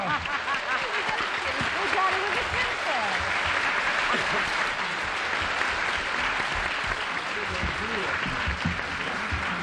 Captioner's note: applause